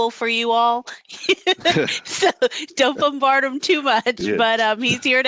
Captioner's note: laughter